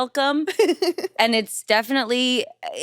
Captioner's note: laughs